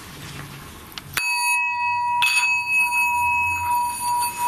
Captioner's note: bowl ringing